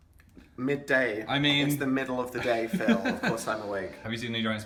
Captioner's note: laughs